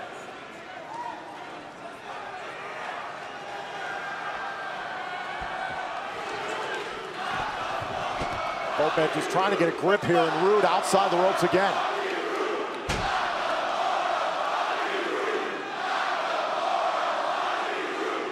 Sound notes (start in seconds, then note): 1.5 crowd cheering